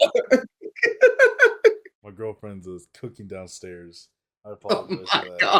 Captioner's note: laughs; beeping; laughs